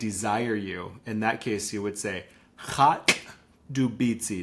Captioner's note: speaks in Lushootseed